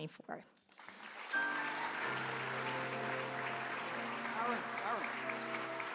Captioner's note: applause